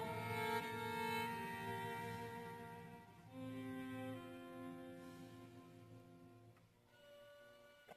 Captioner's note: none